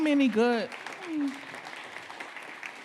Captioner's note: audience clapping